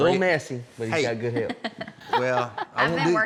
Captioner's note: laughing